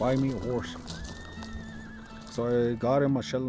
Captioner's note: horse whinnies